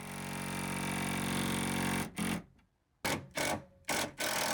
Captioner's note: drill rattles